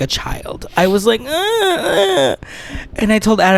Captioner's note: baby cry